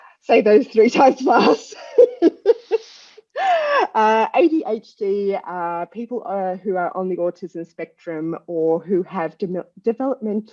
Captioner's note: laugh